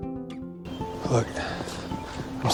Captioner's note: voiceover